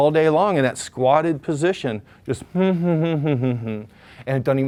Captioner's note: hums